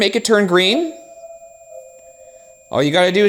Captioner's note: REM-Pod beeping